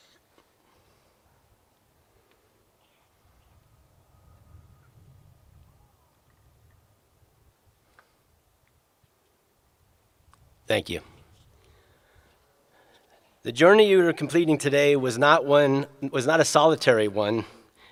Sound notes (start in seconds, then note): 4.3 moment of silence